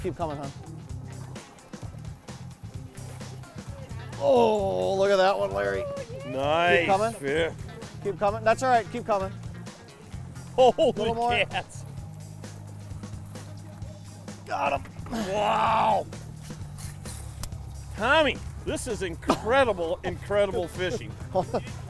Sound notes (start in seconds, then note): 10.4 laughs